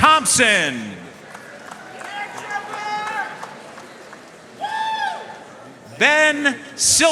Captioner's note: audience cheering and applauding